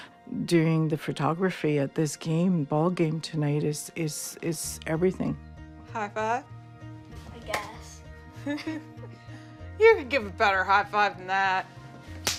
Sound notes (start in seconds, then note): 8.4 laughs